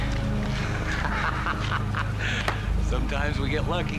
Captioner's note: laughing